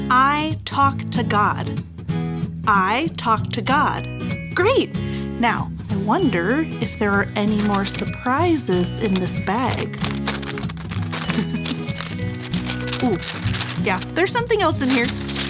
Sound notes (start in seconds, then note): 8.9 bag scrunches